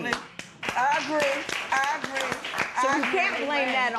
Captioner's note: applause